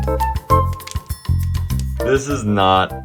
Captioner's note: bell chimes